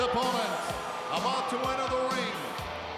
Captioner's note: crowd cheering